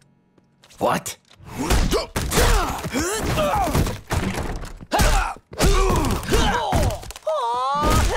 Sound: grunting

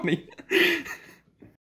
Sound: more laughter

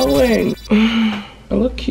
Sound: sighs

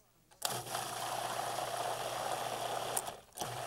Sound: blender whirls

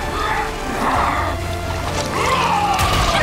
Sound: growling; yelping

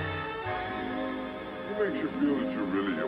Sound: slow motion voice

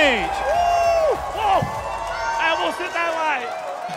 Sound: people clamoring

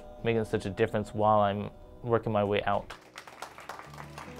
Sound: applause

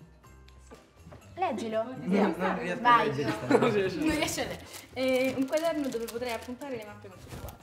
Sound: laughter

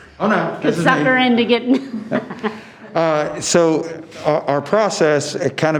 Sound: laughing

